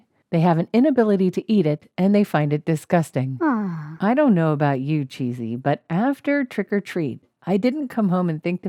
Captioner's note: awww